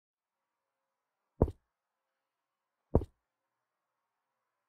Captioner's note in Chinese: 腳步聲